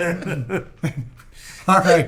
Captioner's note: laughing